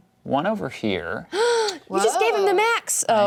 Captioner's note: gasps